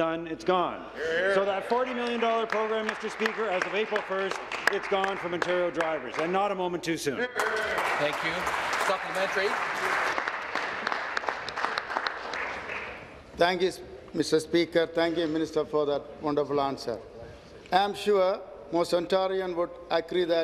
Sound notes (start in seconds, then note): 12.3 applause